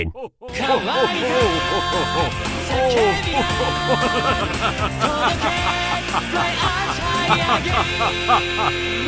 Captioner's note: Yami continues to laugh